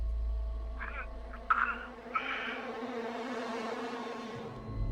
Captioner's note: gasping on recording